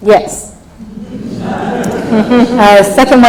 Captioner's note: laughs